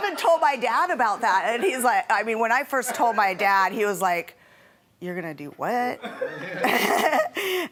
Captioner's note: laughing